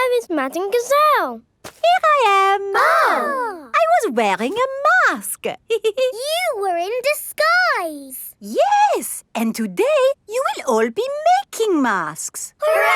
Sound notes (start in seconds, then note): 2.4 exclaiming; 5.7 giggles